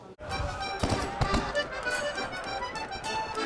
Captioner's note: cannons firing